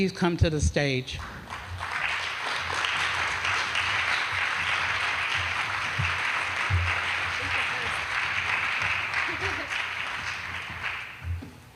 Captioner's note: applause